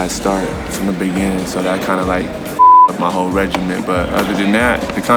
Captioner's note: beep